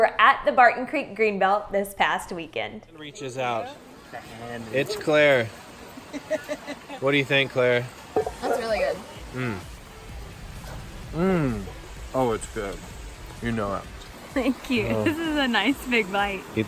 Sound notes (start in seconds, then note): 5.9 laughing